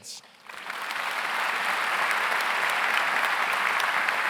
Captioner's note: audience applauds